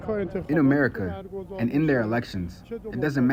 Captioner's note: through translator